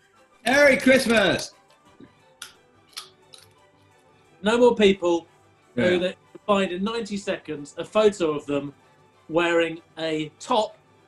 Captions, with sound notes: MERRY CHRISTMAS! [BITES AND CRUNCHES CARROT] No more people... who that you can find in 90 seconds... ...a photo of them... wearing a top...